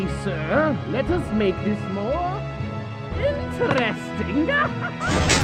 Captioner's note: laughs